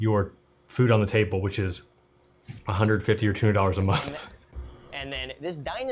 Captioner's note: laughs